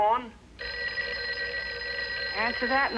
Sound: telephone Rings

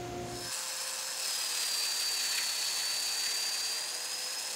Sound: power tool buzzes

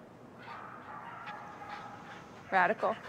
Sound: posh panting

